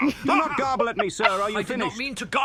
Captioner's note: Katy chuckles